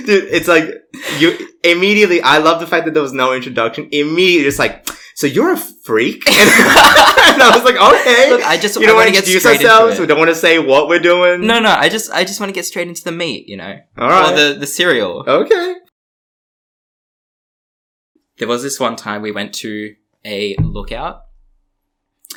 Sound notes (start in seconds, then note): 4.8 lip smack; 6.3 laughs